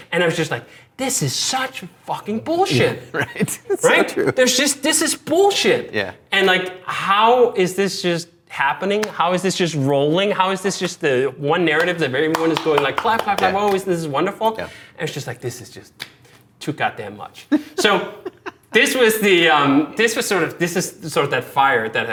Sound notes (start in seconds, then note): 2.7 laughing; 11.7 hands clapping; 17.5 laughing